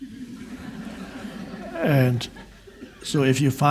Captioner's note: audience laughs